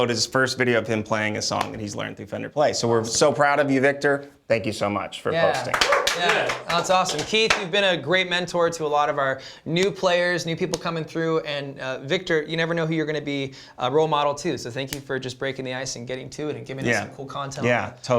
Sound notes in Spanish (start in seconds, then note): 5.4 voces y aplausos